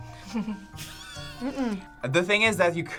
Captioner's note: React laughs